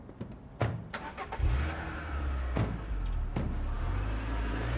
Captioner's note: engine revving